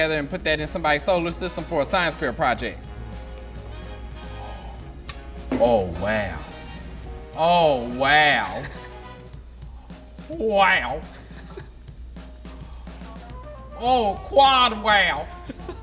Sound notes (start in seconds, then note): 4.0 gasps; 13.6 laughing